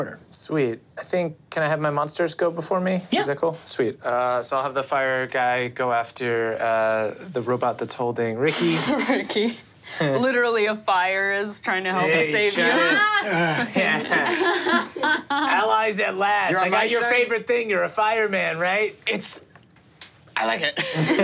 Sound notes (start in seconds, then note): 9.2 laughs; 12.5 group laughing